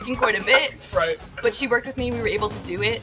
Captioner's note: laughing